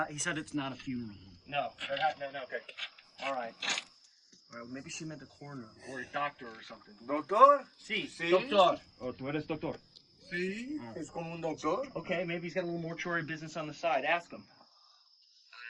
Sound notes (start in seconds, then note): 7.0 foreign language